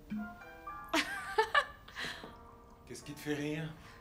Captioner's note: laughs